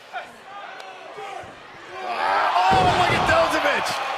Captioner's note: crowd chatter